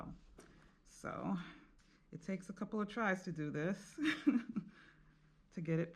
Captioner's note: laughing